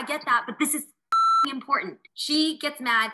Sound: beep

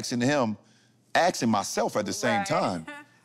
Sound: chuckles

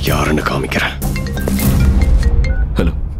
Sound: phone rings

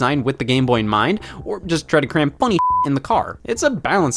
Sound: beep

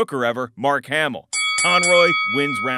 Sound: bell clangs

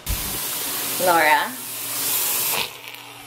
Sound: water running

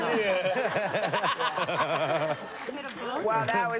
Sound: laughs

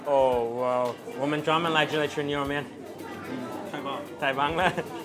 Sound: speaks in Chinese

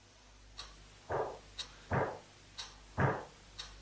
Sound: banging

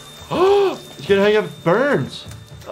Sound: gasps

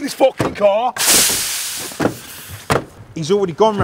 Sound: hissing

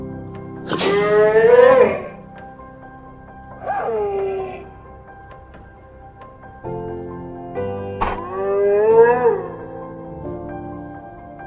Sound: Brachiosaurus wailing

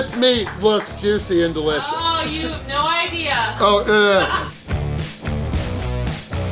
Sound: crowd

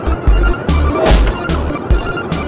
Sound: wood Impact

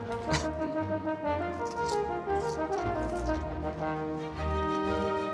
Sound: lettuce crunches

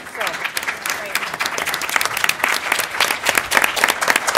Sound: applause

